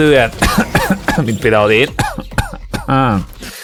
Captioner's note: cough cough